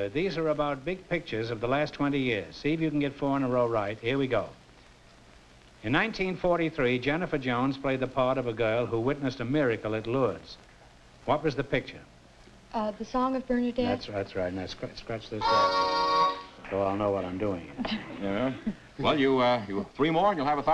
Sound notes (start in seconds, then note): 15.4 horn blow